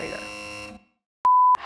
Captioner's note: buzzer